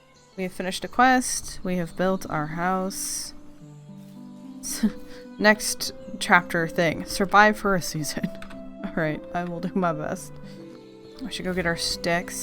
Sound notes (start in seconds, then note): 5.3 laughs